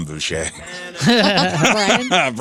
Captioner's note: laughing